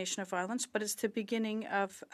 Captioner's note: speaking French